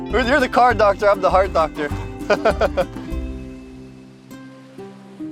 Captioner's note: laughs